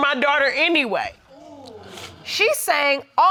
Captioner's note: crowd groans in disbelief